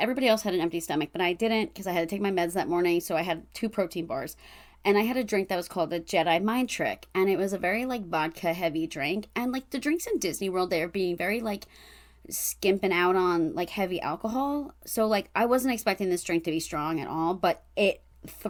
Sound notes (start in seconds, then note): none